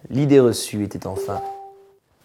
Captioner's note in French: son de notification